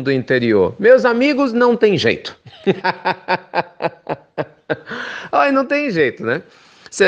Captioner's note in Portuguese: risos